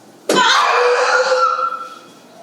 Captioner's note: cry of despair